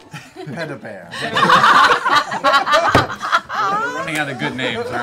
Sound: group laughter

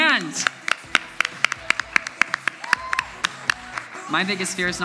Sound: audience applauds

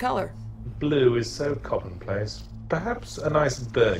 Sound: voiceover

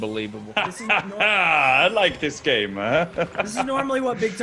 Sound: laugh

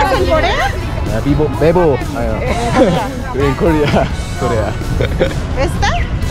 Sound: in broken Spanish

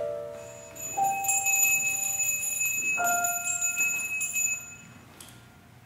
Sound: bell ringing

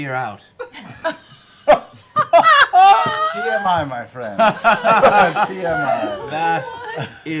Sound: laughter

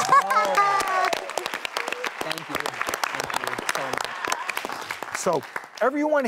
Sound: audience applauds

